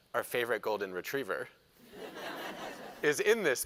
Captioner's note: laughter